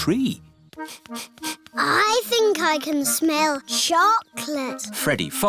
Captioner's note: sniffs